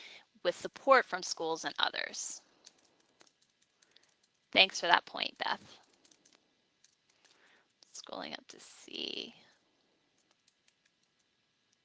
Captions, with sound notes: "with support from schools and others." Thanks for that point, Beth (fast typing). Scrolling down to see.